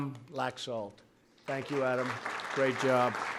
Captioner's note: applause